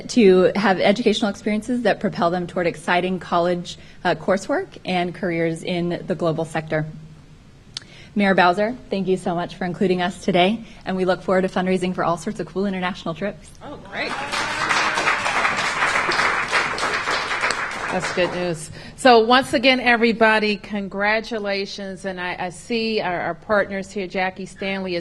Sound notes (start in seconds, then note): 14.0 applause